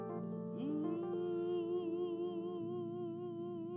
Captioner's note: singer humming